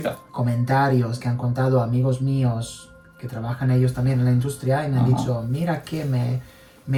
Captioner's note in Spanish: carraspeo